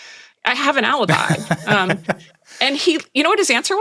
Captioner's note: Nilay laughing